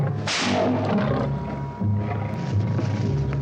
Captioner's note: whip cracks